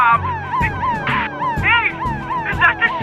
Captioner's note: siren Wails